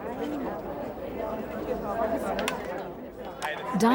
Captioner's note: crowd chattering